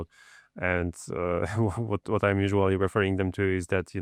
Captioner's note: chuckles